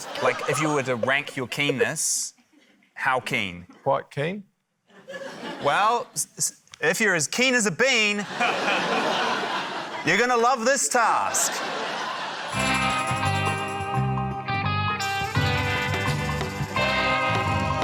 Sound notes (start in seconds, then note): 0.0 laughter; 6.3 stammers; 8.2 laughter; 12.5 intriguing music